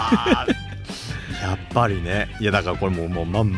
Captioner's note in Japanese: 笑い